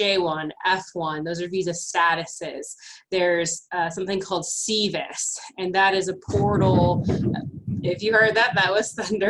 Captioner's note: thunder